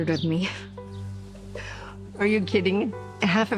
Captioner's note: chuckles